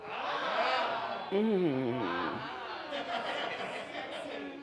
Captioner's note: Wendy moans; audience oohs and aahs; audience laughs